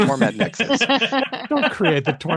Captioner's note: laughter